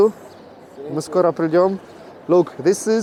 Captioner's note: speaking in foreign language